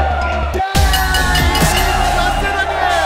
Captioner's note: Bell ringing